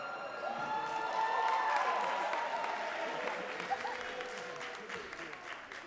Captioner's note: crowd cheering and clapping